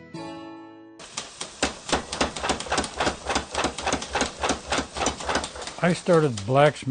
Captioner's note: machine pounding